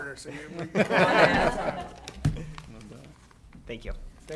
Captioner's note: laughter